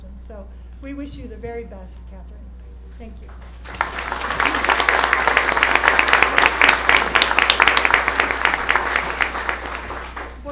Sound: applause

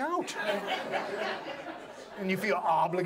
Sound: audience laughs

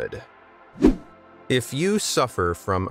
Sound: video whooshing

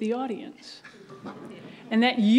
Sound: audience laughs

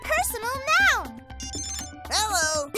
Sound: spell phone rings

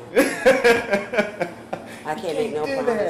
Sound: laughs

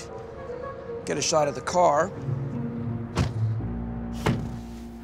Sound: car doors shut

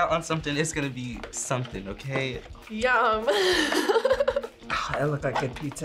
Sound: laughs

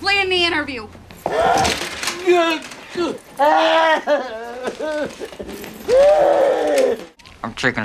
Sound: screams

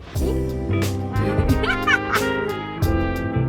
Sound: hahahahahahaha

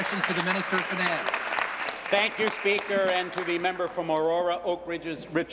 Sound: applause

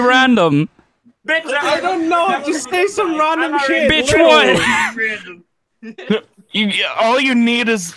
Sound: laughing

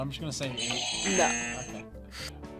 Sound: buzzer

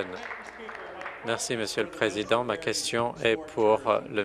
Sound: applause

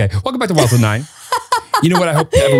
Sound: laughing

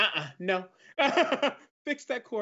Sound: laughs

